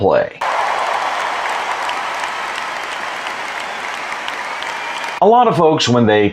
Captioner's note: applause